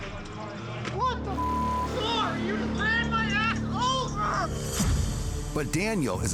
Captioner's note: beep